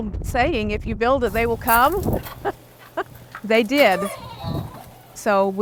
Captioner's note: laughs